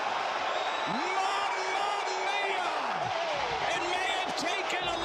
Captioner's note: cheers